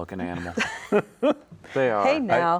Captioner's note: laughing